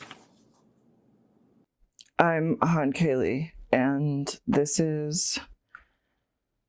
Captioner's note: page turning